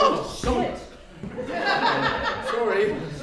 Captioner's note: people laughing